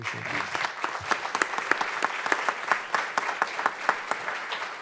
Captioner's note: audience clapping